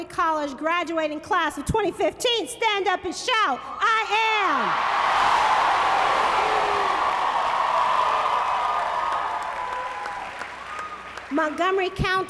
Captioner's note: applause